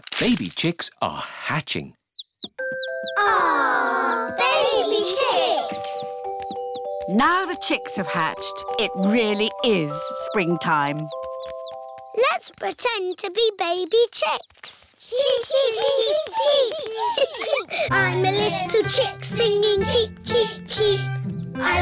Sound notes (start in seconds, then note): 2.0 chicks cheeping; 15.2 children imitating chicks